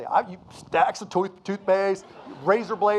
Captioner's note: audience laughing